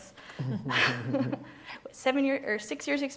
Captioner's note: laughing